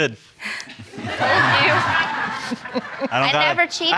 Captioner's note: audience laughing